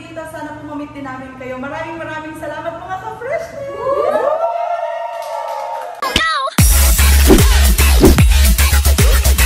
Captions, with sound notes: Thank you so much, Kafreshness! [ cheers ]